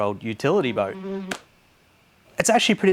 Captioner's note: fly buzzes